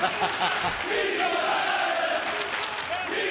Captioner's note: laughter; fans chanting